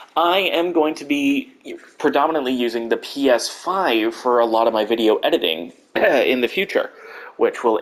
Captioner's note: coughs